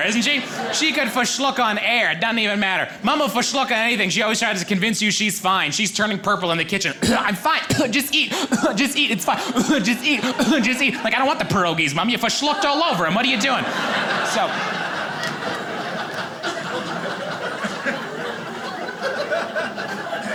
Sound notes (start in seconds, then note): 6.9 coughs; 13.4 audience laughing